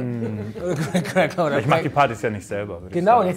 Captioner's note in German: lachend